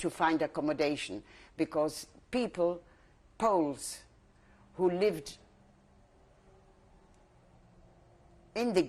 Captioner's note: pauses for 3 seconds